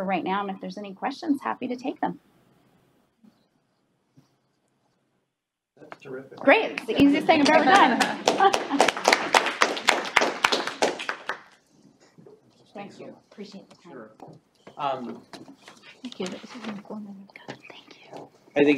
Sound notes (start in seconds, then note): 8.3 all laughing, cheering; 15.9 whispering